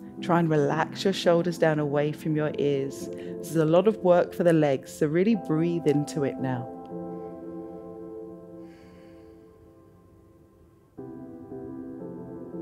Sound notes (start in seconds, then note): 8.5 inhales; 8.6 exhales